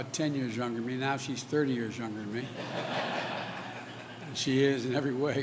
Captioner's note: laughter